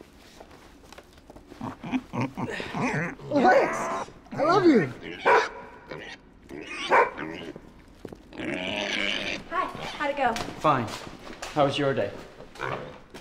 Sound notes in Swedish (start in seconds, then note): 1.5 fnyser; 5.2 skäller